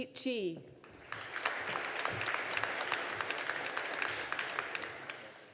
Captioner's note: audience applauding